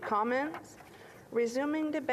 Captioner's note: speaking French